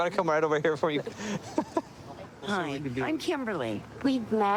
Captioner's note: laughing